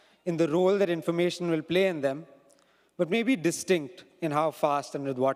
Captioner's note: none